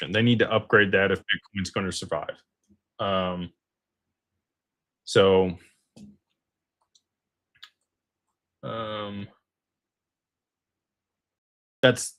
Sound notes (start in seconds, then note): none